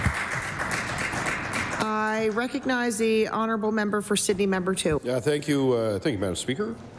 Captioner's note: applause